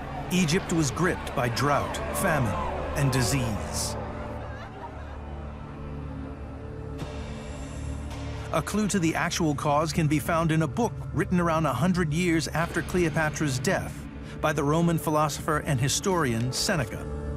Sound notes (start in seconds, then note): 3.7 gentle suspenseful music; 3.7 woman wails